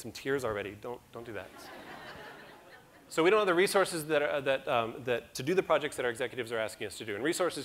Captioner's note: audience laughter